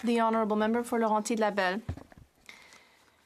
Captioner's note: speaking French